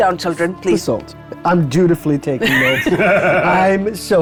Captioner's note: chuckles